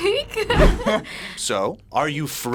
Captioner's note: both laugh